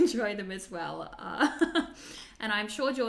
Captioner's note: laughs